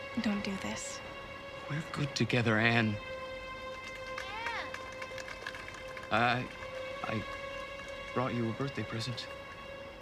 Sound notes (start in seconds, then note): 4.3 applause in distance